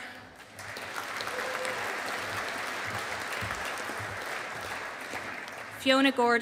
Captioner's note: audience applauding